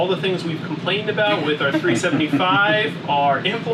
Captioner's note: laughing